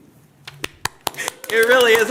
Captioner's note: applause